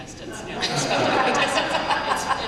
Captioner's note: laughter